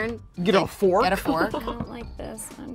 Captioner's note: laughter